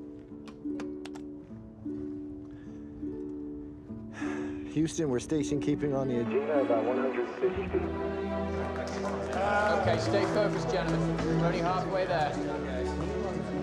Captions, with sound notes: (Sighs) - Houston, we're station-keeping on the Agena about 150 feet. (Laughter and applause)